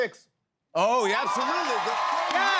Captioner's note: cheers and applause